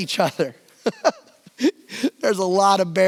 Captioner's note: laughs